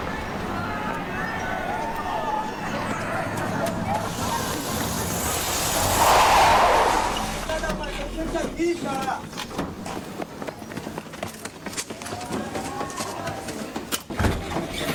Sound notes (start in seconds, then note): 2.5 distant yelling; 5.5 car screeching to a stop